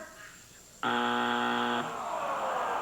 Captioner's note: buzzer